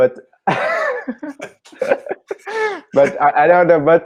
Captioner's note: laughing